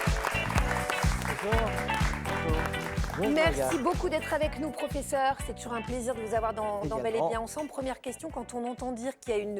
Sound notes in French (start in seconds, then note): 0.0 applaudissements; 3.5 acclamation